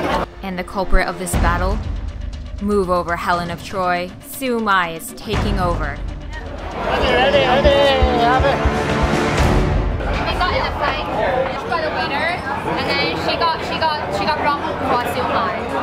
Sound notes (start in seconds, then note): 6.5 loud chattering and clinking of ceramic ware; 6.5 suspenseful background music